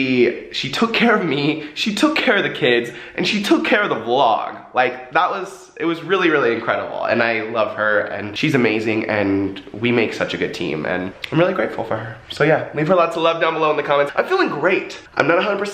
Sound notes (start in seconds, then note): none